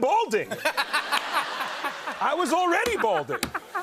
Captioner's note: laughter